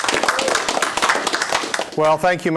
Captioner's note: applause